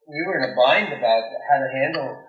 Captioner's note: soundbite of archived recording